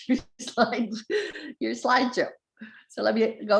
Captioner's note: laughter